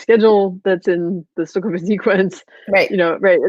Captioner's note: voice muffled